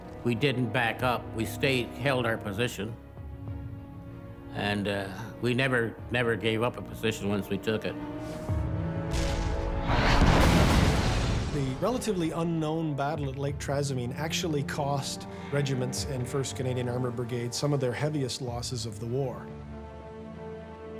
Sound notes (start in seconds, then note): 8.1 suspenseful music; 9.1 shell exploding